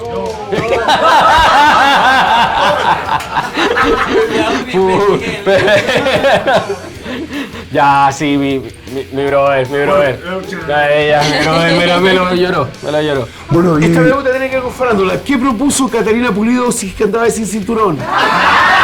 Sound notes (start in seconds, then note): 0.2 laughs